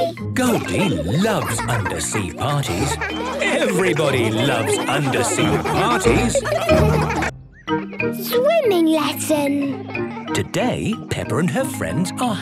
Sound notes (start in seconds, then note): 6.3 laughter